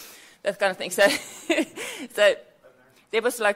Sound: laughs

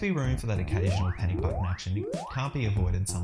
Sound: alarm ringing

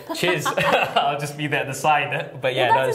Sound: laughter

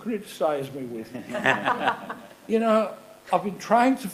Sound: laughing

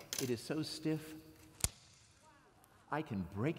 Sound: snap

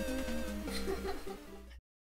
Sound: laughing

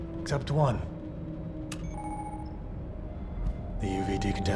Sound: computer chimes

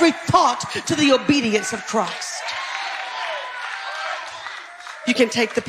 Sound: audience cheering

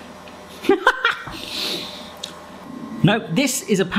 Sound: laughing

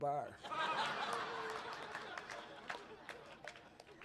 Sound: laughter, clapping

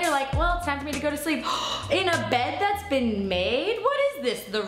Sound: gasps

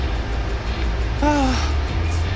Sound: sigh~

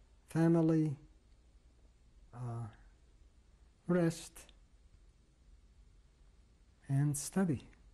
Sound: pauses for 3 seconds

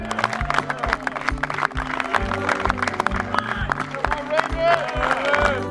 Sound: team cheering and clapping

